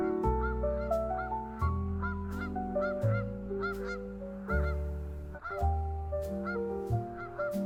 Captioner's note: the geese are yelling in the background